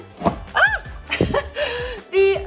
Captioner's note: laughs